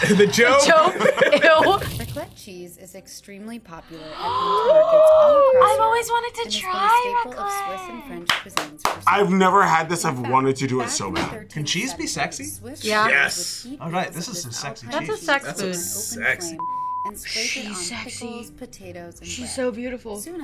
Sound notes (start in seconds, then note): 0.0 everyone laughing; 3.9 both gasping; 8.3 clapping; 16.6 beep